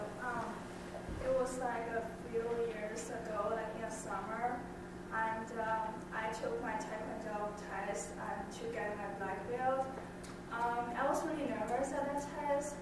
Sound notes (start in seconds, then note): 1.3 voiceover